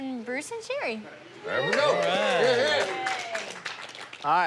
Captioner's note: cheering